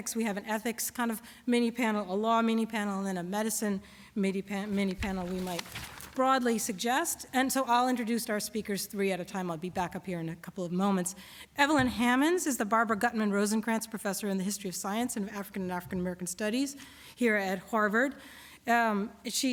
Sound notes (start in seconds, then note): none